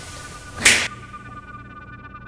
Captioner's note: snaps fingers